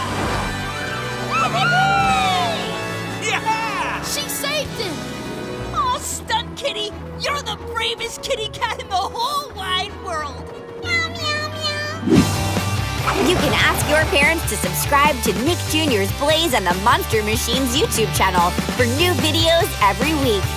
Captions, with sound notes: Yahoo! Yeah heh! She saved him. Aw, Stunt Kitty, you're the bravest kitty cat in the whole wide world. [meowing] You can ask your parents to subscribe to Nick Jr's Blaze and the Monster Machines YouTube channel for new videos every week.